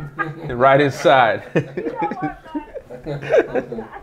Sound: laughing

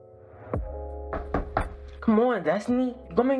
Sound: knock at door

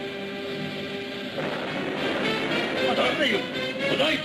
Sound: explosions booming

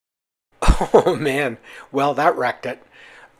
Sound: laughing

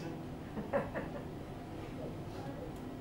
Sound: laughter

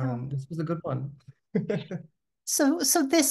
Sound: laughing

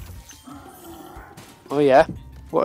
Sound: Gnorc roars

